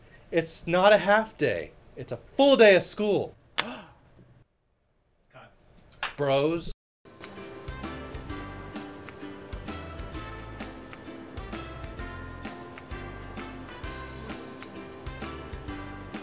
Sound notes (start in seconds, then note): 3.6 gasp